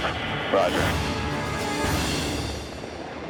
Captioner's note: man Over Radio